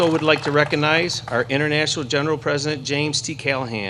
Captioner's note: applause